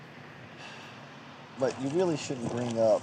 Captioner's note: sighs